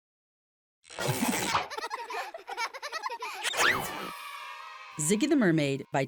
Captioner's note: children laughing